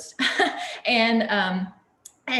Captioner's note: chuckles